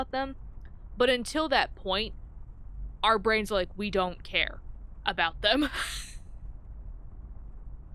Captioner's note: laughs